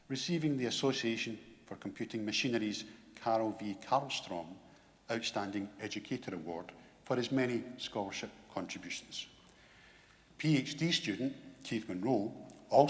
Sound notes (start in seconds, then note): none